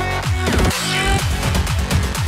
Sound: another funky sound

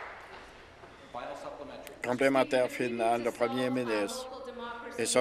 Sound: applause

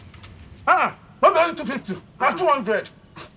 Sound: sarcastic

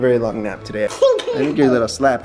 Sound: laughs

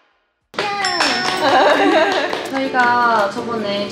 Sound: clap, clap

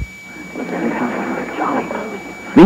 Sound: hushed speech

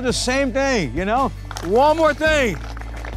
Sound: group applauds

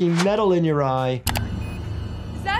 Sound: machine beeps

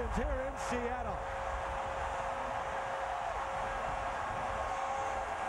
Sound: cheering, applause

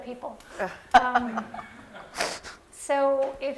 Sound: laughter

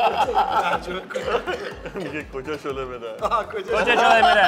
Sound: laughing; speaking Persian

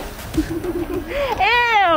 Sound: laughing

